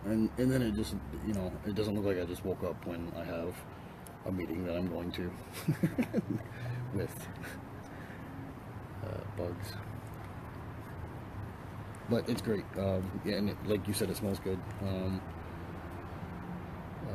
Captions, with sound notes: - And then, you know, it doesn't look like I just woke up when I have a meeting that I'm going to (laughs) with bugs. But it's great. And, like you said, it smells good.